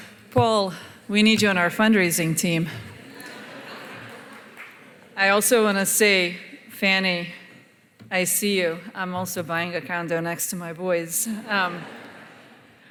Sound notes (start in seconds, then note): 3.0 laughter